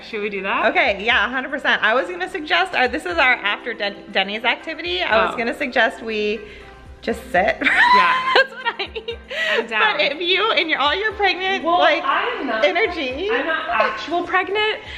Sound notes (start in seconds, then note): 7.6 laughing